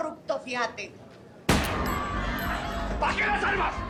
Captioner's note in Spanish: Disparo